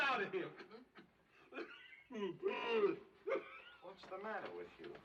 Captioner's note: coughing, Wheezing